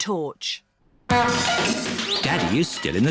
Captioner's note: crashing